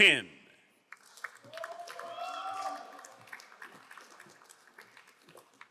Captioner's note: crowd applauding